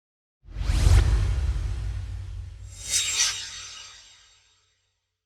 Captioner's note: swoosh